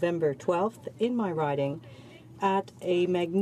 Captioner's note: speaking French